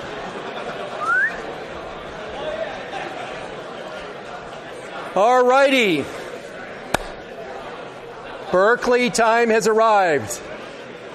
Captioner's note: whistles